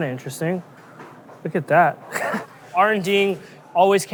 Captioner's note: chuckles